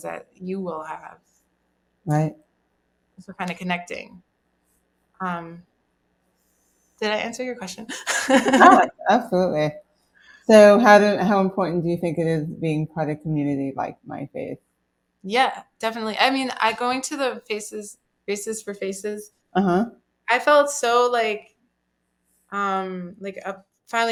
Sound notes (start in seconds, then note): 7.8 laughs